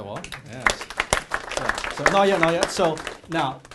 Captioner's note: applause